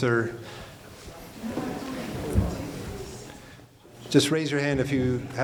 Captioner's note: audience talking